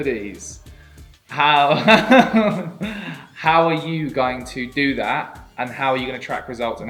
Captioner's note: laughing